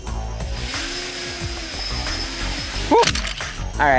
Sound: electric motor whirring

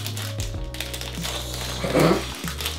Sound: hisses

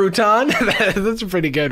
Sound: laughs

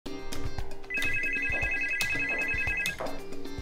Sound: phone ringing

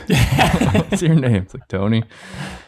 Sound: laugh

